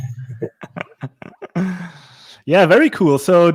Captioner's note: laughs